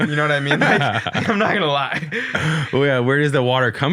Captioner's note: both laughing